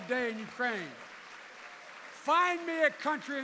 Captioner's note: applause